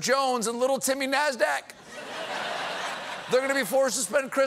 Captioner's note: laughter